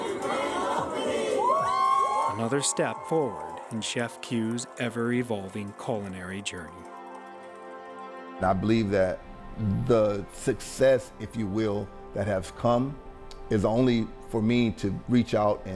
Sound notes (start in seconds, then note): 0.0 people cheering; 6.8 ethereal orchestral music